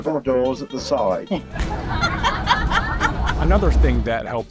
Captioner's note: laughing